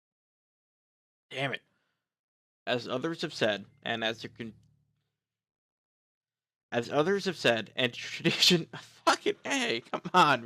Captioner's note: laughing